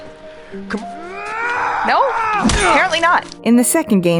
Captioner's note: NPC screams